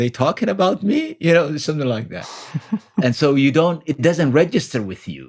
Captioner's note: laughs